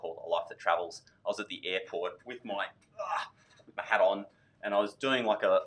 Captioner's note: grunts